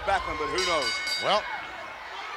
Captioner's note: ring bell clanging